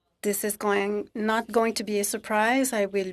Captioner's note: speaking French